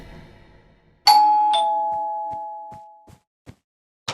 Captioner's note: doorbell